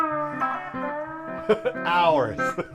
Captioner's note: laughing